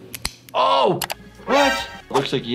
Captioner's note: bone cracking